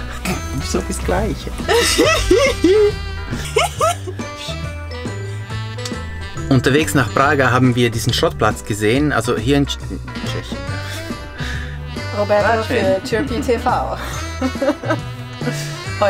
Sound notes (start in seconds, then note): 1.6 giggle